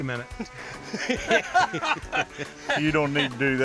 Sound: laughter

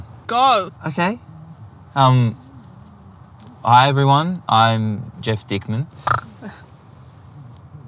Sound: snorts

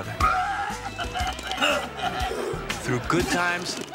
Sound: vomiting

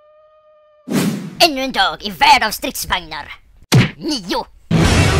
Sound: speaks in Swedish

